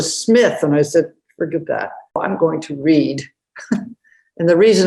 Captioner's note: chuckles